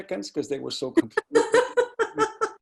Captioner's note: laughing drowns out speaker